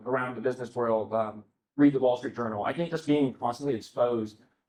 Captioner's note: none